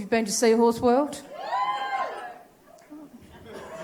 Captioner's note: sparse cheers